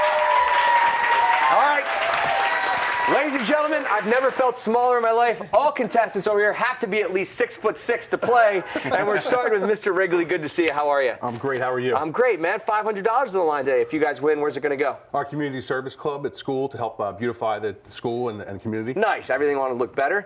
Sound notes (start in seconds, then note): 0.0 cheers and applause